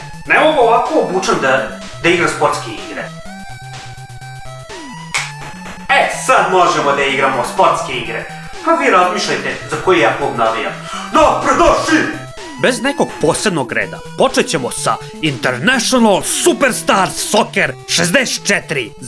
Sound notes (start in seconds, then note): 5.0 snaps his fingers